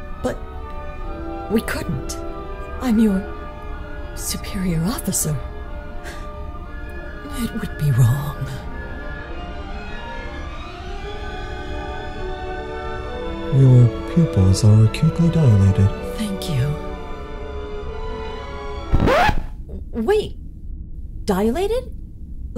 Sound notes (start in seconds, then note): 6.0 gasp; 10.1 music swells; 18.9 record scratch